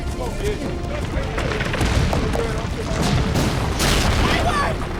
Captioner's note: loud rumbling